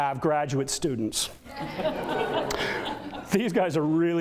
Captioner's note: audience laughter